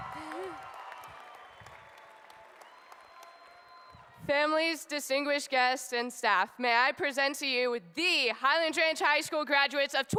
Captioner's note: applause